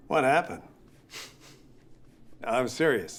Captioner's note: laughs